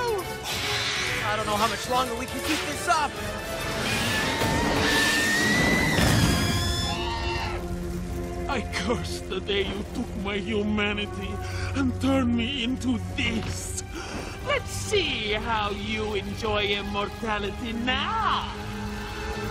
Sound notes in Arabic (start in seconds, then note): 3.8 كلاهما يصرخ; 7.1 يئن